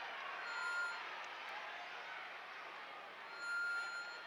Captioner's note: crowd chattering